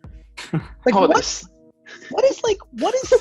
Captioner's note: laughs